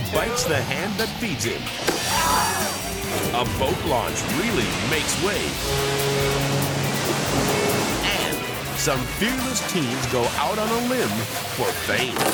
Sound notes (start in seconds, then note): 1.9 man screaming; 5.5 fog horn blowing